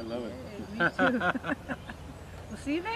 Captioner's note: laughs